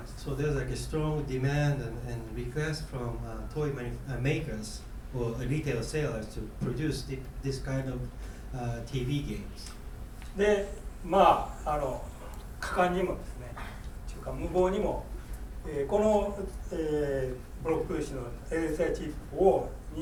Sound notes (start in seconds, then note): 10.5 speaking in foreign language